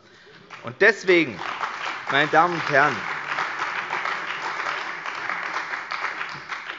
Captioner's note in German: Beifall bei der CDU und dem BÜNDNIS 90/DIE GRÜNEN